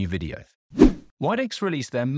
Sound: swooping transition

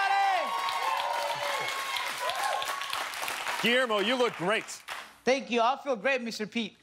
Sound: cheers and applause

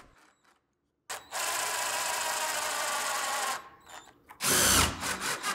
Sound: drill whirring

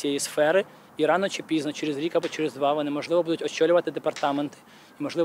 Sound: none

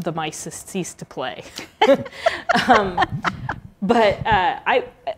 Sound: laughter

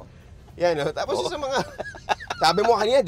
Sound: laughs

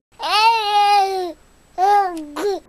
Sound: baby mumble

